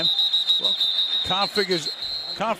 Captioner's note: whistling